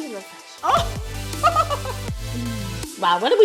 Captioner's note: laughing